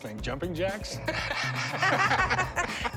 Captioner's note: laughter